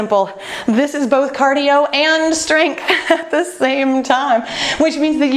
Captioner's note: laughs